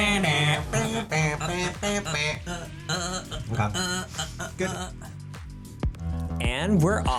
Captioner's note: humming and dancing to background music